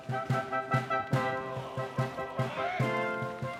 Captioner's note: oarsmen shouting